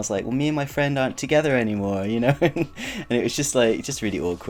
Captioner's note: chuckles